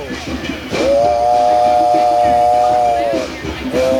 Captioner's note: train sounds